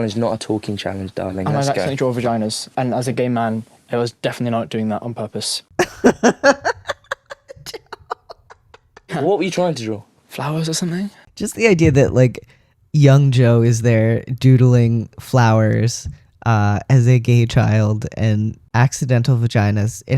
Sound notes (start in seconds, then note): 5.8 laughter